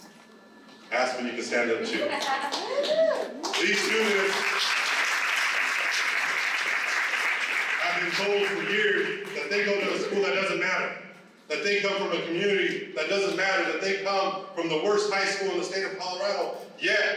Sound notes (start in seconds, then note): 5.7 applause